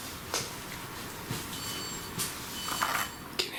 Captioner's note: device beeps